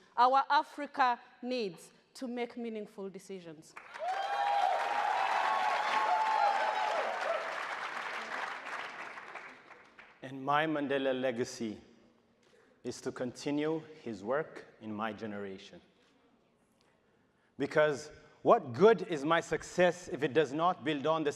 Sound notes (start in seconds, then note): 3.8 audience cheers